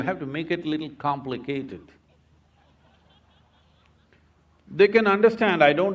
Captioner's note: laughter